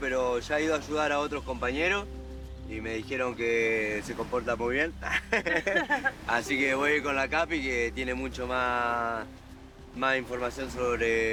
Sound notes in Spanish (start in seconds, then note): 5.0 ríe